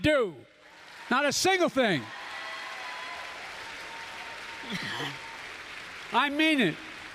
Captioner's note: applause